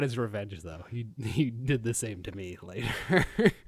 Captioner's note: chuckling